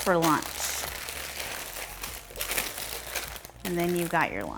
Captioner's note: paper rustling some more